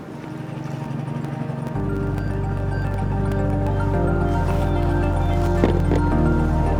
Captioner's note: gentle music; motor burbling